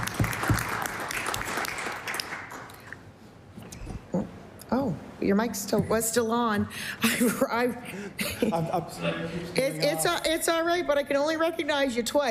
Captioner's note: applause